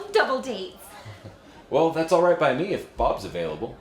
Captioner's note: chuckles